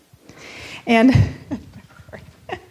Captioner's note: laughing